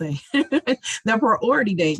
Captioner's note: laughs